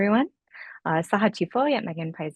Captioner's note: non-english speech